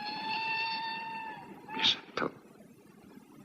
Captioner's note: train whistle blowing